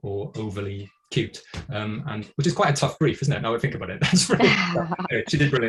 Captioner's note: laughter